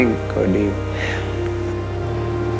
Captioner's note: breath